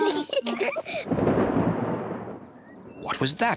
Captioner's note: both giggle; thunder rumbling